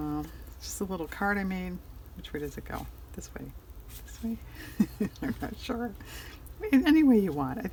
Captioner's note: laughs